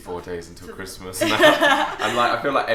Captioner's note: laughs